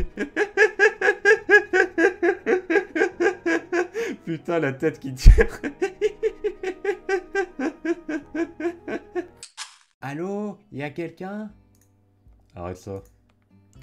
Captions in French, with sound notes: [Rires] Putain la tête qu'il tire ! [Rires]